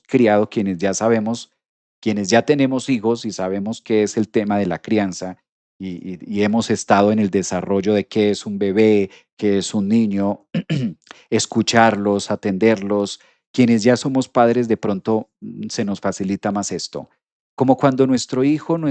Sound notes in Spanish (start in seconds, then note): 10.5 carraspeo